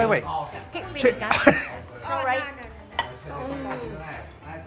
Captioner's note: laughter